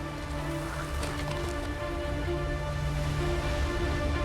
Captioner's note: wind blowing